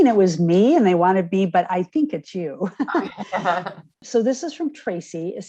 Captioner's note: laughing